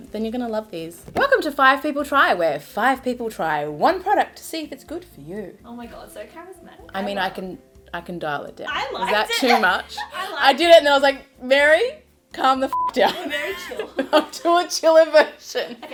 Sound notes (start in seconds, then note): 9.0 chuckles; 12.7 beep; 12.9 laughs